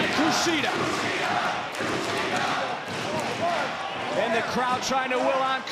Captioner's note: crowd cheering